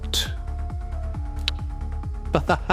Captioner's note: tsk; Joborobo laughing